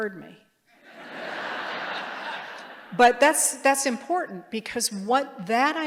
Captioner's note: laughter